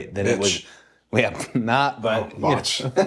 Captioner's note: laugh